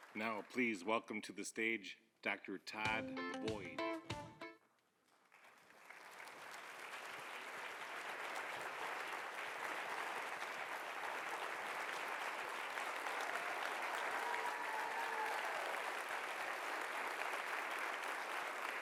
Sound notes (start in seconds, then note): 2.7 upbeat music; 6.4 audience applauding; 13.8 audience cheering